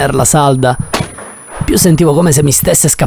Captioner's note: gunshot